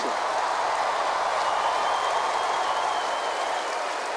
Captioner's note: audience applauding